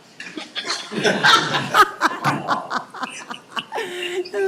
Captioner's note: members laughing